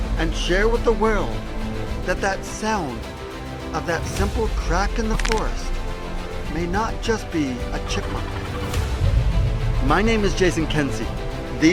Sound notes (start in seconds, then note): 5.0 wood crackling; 8.6 bright upbeat music